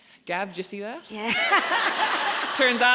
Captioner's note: audience laughs